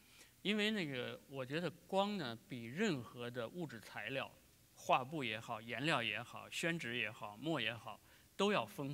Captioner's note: speaking in Chinese